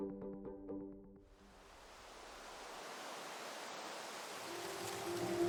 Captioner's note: leaves rustling